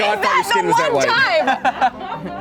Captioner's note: all Laughing